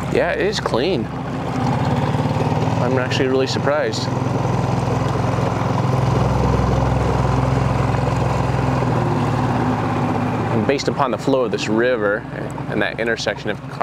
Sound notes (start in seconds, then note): 4.9 motor rustling continuing; 4.9 soft music continuing